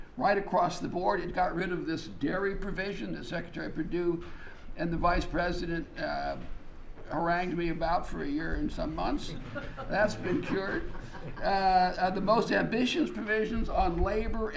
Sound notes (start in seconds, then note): 9.3 laughter